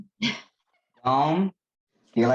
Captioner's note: laughing